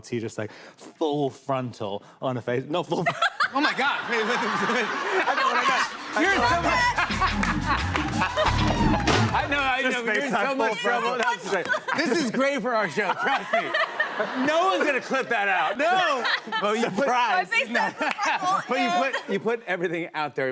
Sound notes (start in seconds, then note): 3.4 laughs; 6.9 laughter